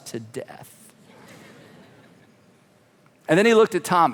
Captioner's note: congregation laughing